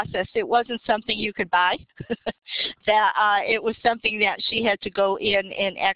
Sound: laughing

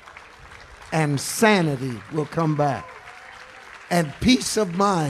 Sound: congregation applauding

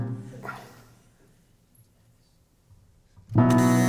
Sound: dramatic pause

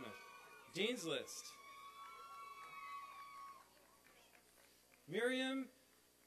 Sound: applause and cheering

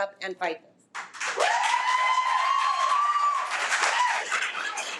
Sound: audience applauding

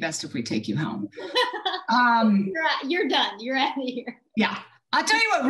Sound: laughs

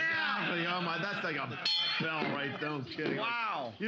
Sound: bell softly chimes

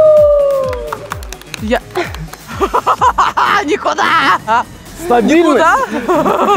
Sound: laughter

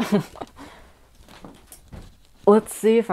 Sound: laughing

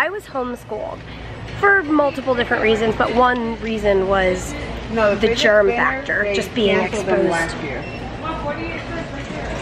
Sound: passerby chatter loudly

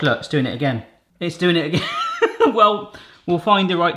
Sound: laughs

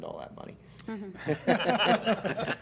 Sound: laughter

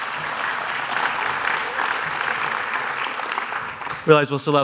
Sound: applause

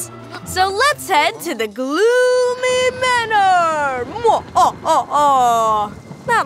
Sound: in a deeper voice

